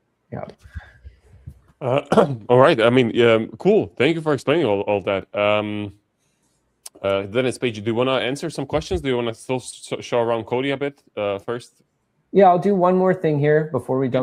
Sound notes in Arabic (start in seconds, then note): 1.8 يُصفّي حلقه